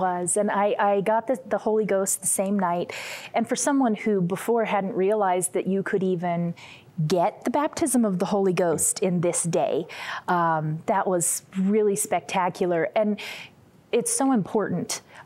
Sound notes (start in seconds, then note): none